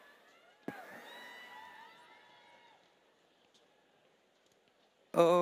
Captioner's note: audience cheering